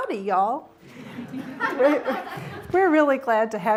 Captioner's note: audience laughing